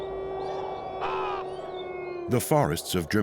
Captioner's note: cawing